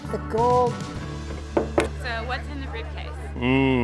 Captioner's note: knocking